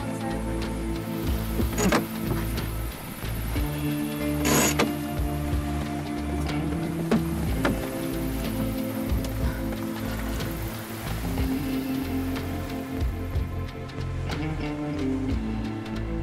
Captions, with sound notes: - Come on, sail. (clunking)